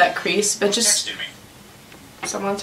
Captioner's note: phone alert "Someone texted me"